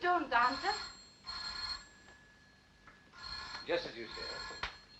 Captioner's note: ringing continues